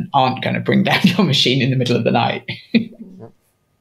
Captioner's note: chuckles